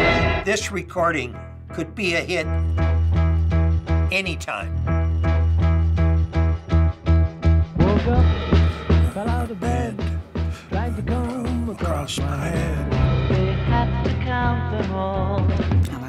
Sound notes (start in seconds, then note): 0.0 music escalating; 4.8 alarm clock ringing; 9.2 singing along